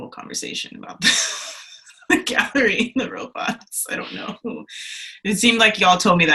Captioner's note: laughs